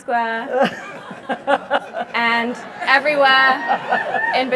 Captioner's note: laugh